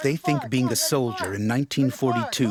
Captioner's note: voiceover